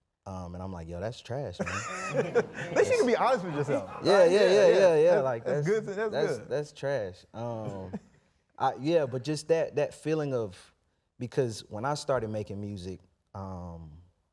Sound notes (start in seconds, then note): 1.6 people laughing